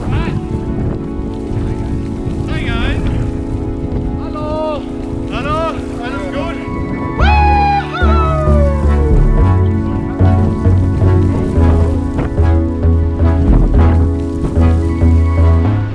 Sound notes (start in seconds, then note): 6.9 whoops loudly; 9.8 upbeat music